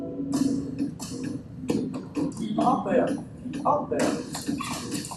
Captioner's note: sticks thud